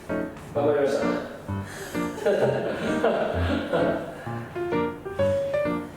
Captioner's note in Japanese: 苦笑